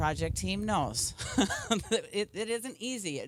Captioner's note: chuckle